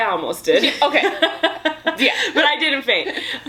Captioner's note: laughs